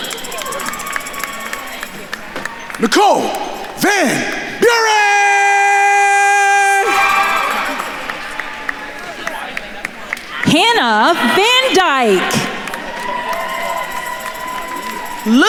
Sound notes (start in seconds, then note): 0.2 attendees cheering and applauding; 6.2 attendees chattering; 13.0 attendees cheering and applauding